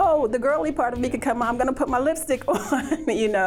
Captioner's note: chuckles